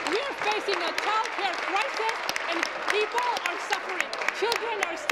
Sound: applause

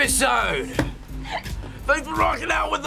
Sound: laughs

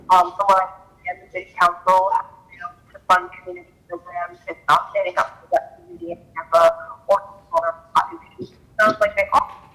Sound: ~audio distortion~

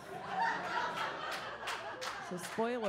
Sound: audience laughs

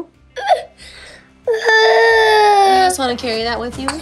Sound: cries

